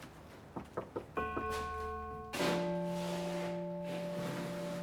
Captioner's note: doorbell chiming